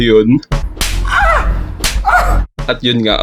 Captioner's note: dirty hands getting spanked